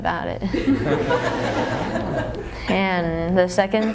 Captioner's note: laughter